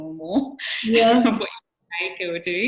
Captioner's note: microphone cutting out